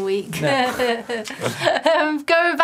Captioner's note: laughing